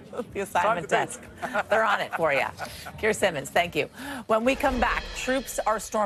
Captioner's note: laughter